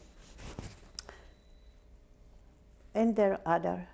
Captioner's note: pauses for 3 seconds